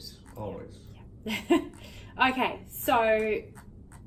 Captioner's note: chuckles